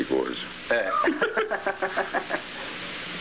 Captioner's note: laughing